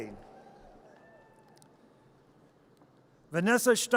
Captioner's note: audience cheers